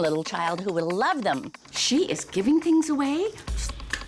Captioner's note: claps